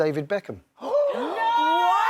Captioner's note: gasps